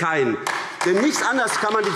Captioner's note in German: Beifall AfD